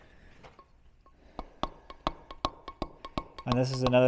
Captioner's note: metal hammering